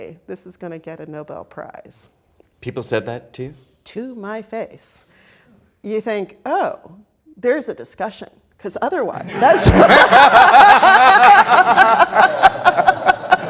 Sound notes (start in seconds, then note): 9.2 all laughing